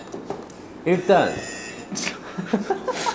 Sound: beep

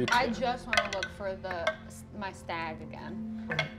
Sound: none

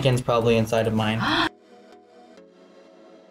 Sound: gasps

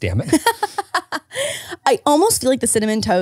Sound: laughing

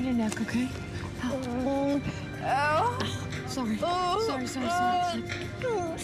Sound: groans

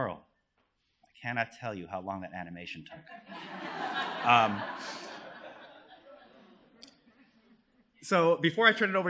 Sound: laughter

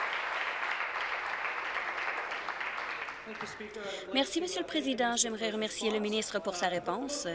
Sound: applause

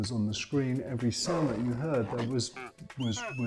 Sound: tiger whistling

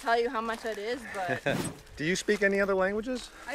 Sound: laughs

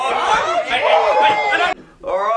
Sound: all shouting

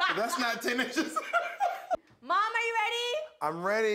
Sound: both laugh

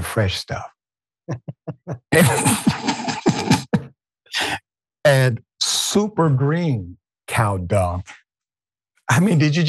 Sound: laugh

